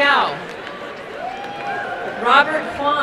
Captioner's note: crowd cheering and applauding